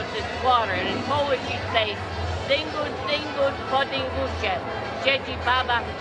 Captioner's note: speaking in Polish; laughs